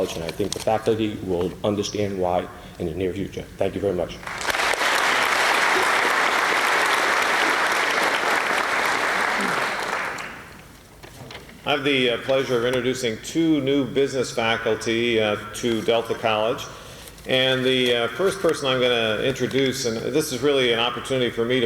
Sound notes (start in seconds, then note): 4.2 applause